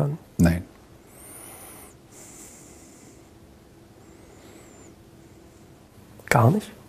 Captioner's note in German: Schweigen